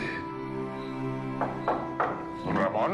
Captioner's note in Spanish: Toques en la puerta